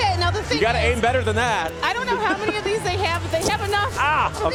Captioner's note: laughter